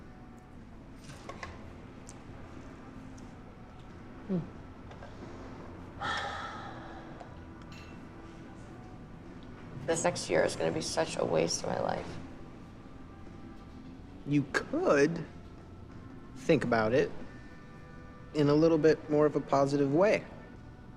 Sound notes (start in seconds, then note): 6.0 sigh